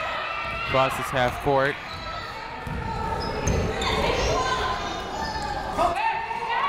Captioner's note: crowd chatter, cheering, throughout game